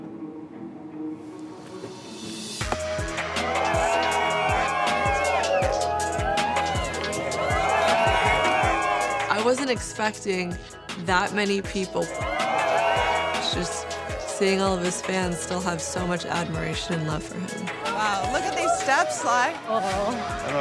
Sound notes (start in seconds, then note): 2.6 crowd cheering; 3.3 upbeat music